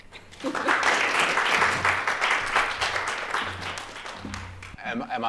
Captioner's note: applause